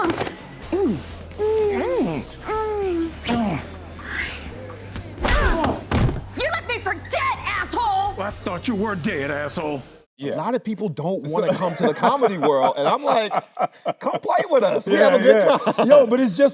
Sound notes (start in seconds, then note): 0.1 upbeat music playing; 0.6 both moaning; 5.2 blow lands; 5.3 Anthony grunting; 11.3 Anthony laughing